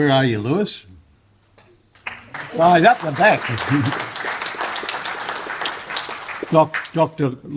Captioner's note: applause